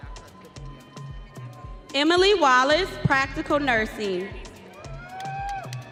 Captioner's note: audience cheering